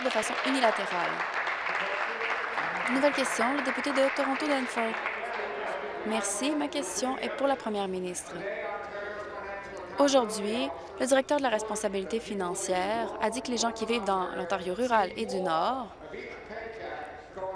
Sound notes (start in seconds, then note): 5.8 applause